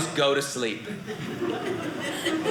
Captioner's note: audience laughing